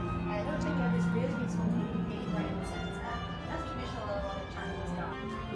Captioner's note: cast member speaking off mic